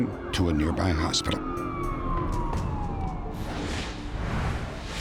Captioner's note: sirens wailing